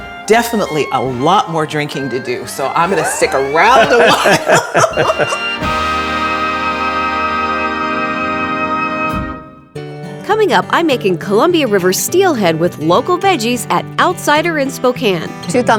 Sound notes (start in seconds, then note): 4.5 laughing